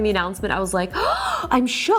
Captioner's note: gasps